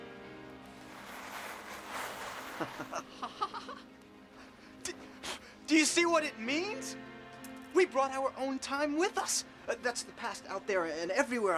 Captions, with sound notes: [ Chuckling ] DO-- DO YOU SEE WHAT IT MEANS ? WE BROUGHT OUR OWN TIME WITH US ! THAT'S THE PAST OUT THERE, AND EVERYWHERE, I GUESS,